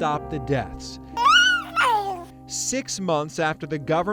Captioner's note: babbling